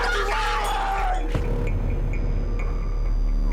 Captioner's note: Jonathan screams; dramatic music